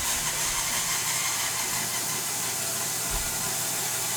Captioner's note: saw buzzing